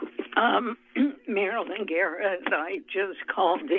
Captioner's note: clears throat